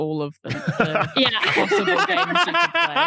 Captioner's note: laughs; belly laughs